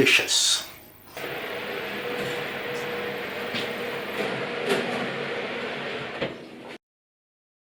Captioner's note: oven roar